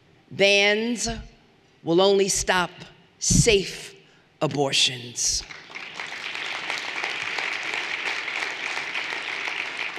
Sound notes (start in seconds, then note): 5.4 everyone applauding